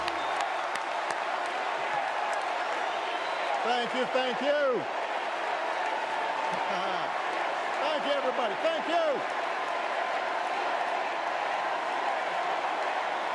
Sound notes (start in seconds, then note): 0.6 cheers; 3.6 applause